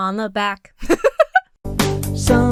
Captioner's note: Emma laughs